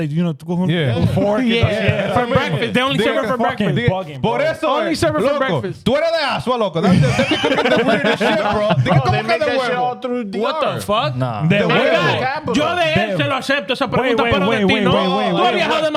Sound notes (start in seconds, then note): 4.2 laughing; 4.2 speaking In Foreign Language; 12.5 speaking In Foreign Language